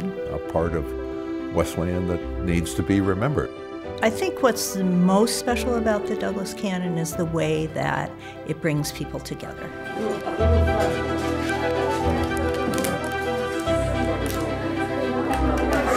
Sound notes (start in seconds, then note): 9.8 background chatter